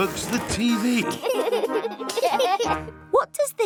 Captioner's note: laughter